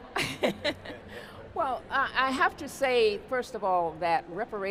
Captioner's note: laughs